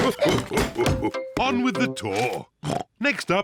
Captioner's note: oinks